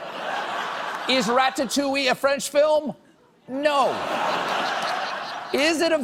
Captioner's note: laughter